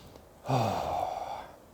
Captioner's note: another sigh